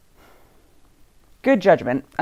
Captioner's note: heavy sigh